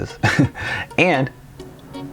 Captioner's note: chuckles